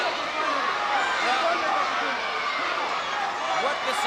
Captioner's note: crowd chattering